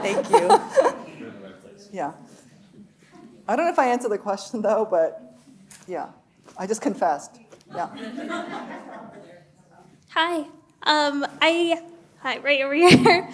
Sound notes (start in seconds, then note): 7.7 laughter drowns speaker; 7.7 audience laughing